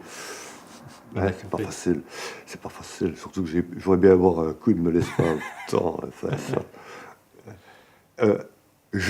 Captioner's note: laughs